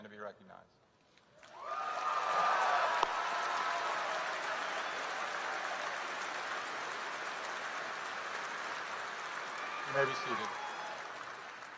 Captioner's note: applause